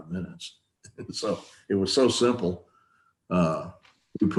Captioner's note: chuckles